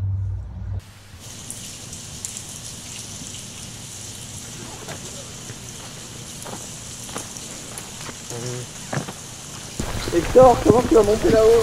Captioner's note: pitter-patter raindrops